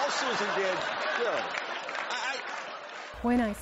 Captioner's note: laughter